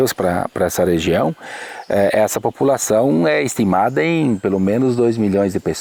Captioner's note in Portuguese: pássaros cantando